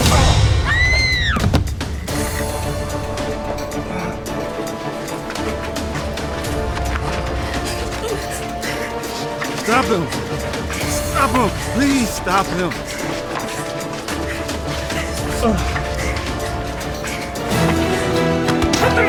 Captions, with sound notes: (gun firing) (woman screaming) (Ron groaning) (suspenseful orchestral music) Stop him, stop him, please stop him. (Ron groaning)